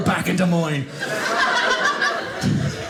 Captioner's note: audience laughing